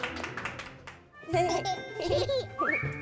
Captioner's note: giggles